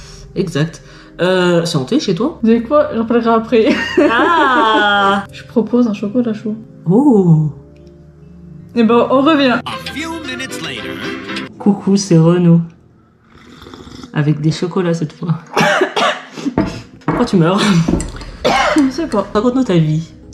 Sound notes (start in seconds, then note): 13.2 great liquid sucking